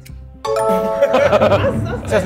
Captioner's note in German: Klingeln, Lachen